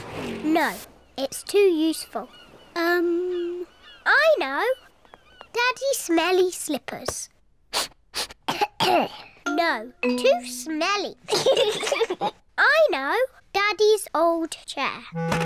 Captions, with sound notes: No! It's too useful. Um, I know! Daddy's smelly slippers. (SNIFFS AND COUGHS) No! Too smelly. (BOTH LAUGH) I know! Daddy's old chair.